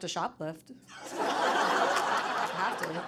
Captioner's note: audience laughing